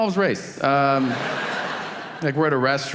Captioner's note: audience laughing